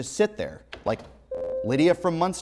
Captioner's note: buzzer